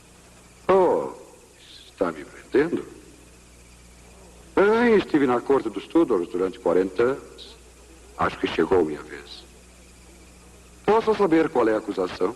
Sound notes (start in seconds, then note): none